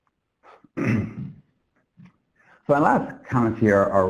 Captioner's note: clears throat